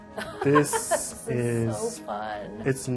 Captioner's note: laughs